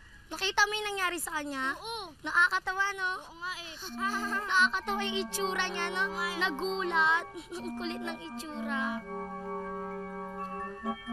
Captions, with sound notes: -Did you see that? -Yes. -Funny, right? -Yeah. -[laughs] He looks funny. -Right. He was surprised. He looks funny. [mischievous music playing]